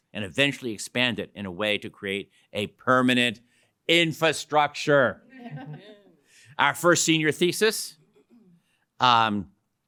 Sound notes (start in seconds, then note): 5.3 laughter